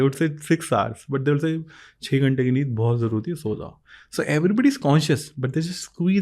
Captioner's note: speaks in Hindi